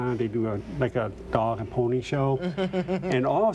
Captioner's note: laughing